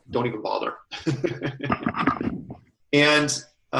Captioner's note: laughter